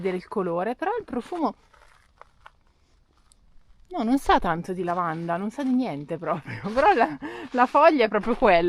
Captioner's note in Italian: risate